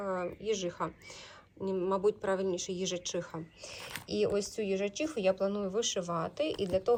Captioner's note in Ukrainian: сопіння